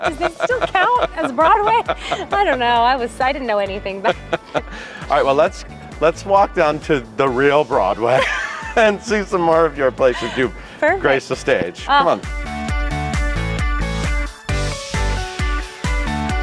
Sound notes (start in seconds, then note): 10.0 laughing; 12.8 upbeat music continues